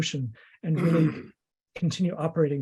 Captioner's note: clears his throat